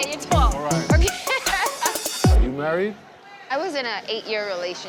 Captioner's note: laughs